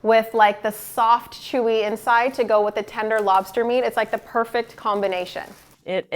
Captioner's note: none